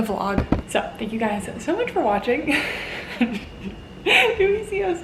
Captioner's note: laughing